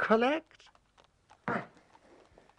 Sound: grunt

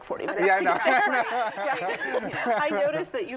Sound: laughter

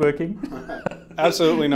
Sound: chuckles

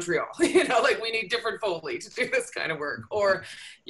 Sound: laughter

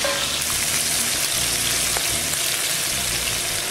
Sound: sizzling

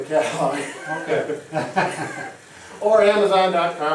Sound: men laughing

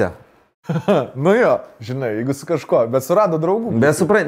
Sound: chuckles

